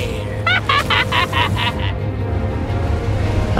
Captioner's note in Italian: risata malvagia